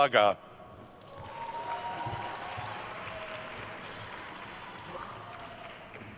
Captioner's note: attendees cheering and applauding